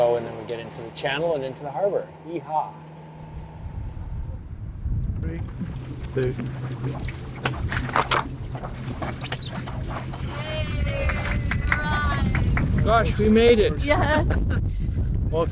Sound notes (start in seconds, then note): 10.2 cheering